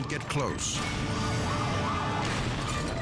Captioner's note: sirens wailing; dramatic music